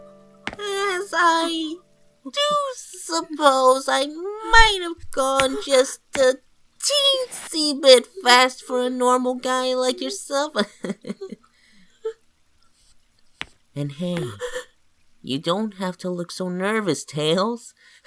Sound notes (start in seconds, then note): 10.6 chuckles nervously; 14.1 gasps